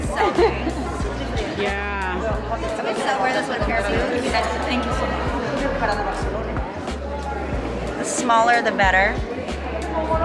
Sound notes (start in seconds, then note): 3.2 murmurs